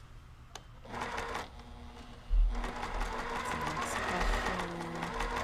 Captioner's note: sewing machine roaring